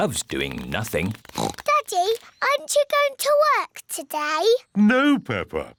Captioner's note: oinks